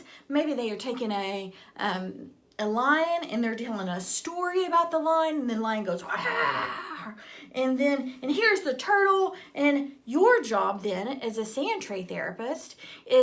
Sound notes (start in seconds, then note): 6.0 growls